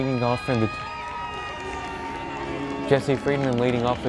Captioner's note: crowd cheers